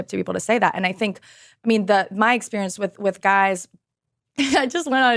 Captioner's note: laughs